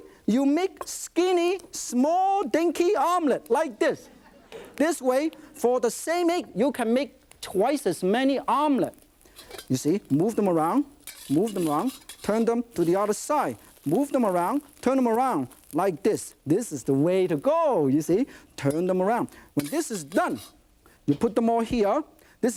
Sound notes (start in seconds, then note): 4.0 light audience laughter